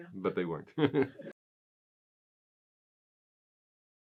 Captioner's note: laughing